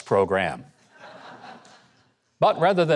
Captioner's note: audience laughs